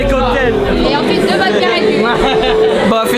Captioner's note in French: rire